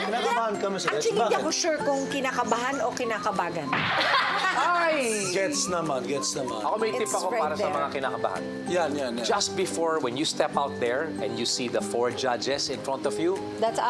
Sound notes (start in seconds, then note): 4.1 silly sfx playing